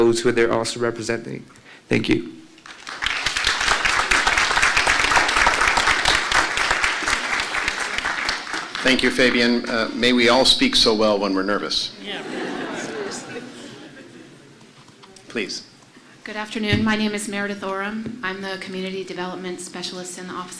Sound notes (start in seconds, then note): 8.9 applause